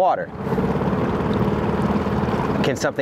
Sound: boat motor rumbling

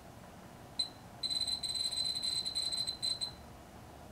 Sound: beeps

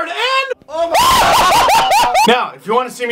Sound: screaming

